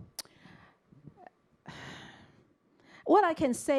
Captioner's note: sighs